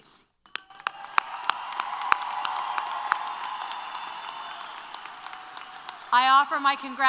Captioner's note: applause & Cheers